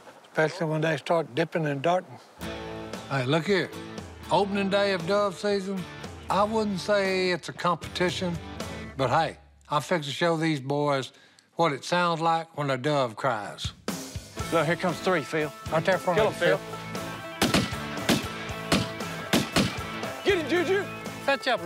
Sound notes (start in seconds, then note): 16.5 gunshots